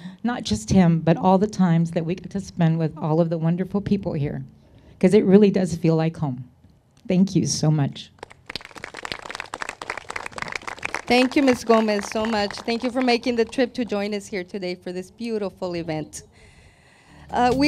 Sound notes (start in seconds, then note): 8.2 crowd claps; 17.2 electronic music